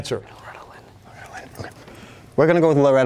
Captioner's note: whispering